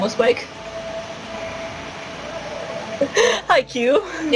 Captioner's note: laughing